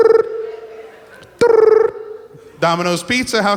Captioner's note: phone ringing